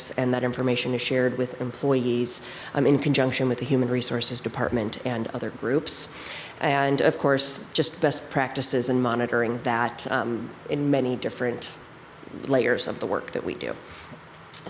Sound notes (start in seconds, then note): none